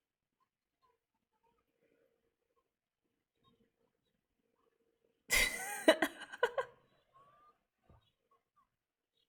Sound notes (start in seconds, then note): 5.3 laughs